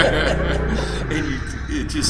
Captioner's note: both laughing